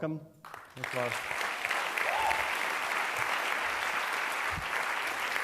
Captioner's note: applause